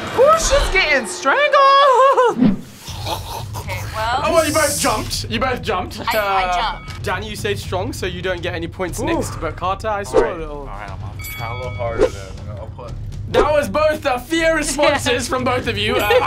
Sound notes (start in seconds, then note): 2.8 gags